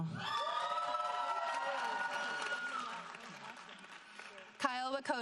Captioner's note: audience applauding